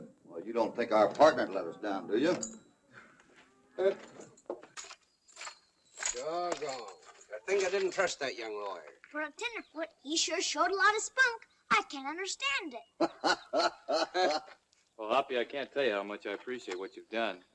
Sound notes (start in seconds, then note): 13.0 guffaws